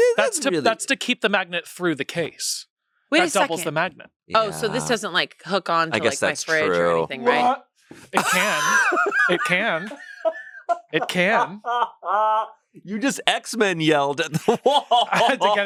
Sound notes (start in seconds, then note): 8.1 laughs; 11.4 still laughing; 15.1 laughs